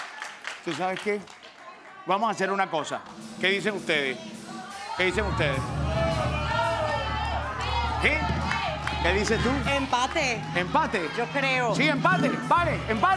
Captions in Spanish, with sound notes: Tú, ¿sabes qué? Vamos a hacer una cosa. ¿Qué dicen ustedes? ¿Qué dicen ustedes? [Bullicio] ¿Qué dices tú? - Empate. - ¿Empate? - Yo creo. - Sí, ¿empate? ¿Vale, empate?